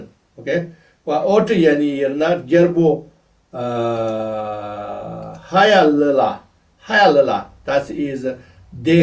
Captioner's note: tibetan